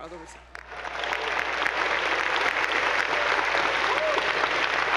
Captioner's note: attendees applauding